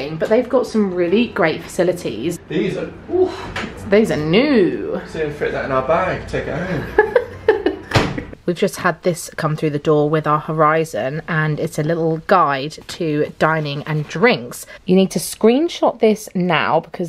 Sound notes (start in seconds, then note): 6.6 giggling; 7.8 washing machine door banging